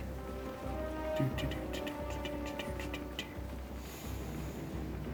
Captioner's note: impatient sounds